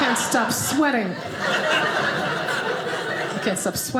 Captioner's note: audience laughing